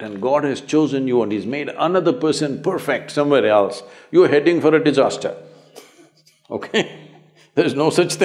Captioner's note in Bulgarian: смее се